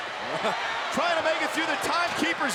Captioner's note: chuckles